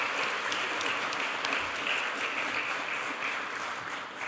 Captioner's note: audience clapping